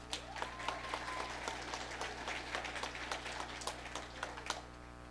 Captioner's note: audience applauding